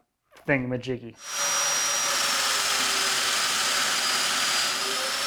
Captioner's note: machine whirring